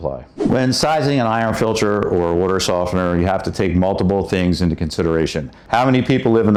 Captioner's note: whooshing sound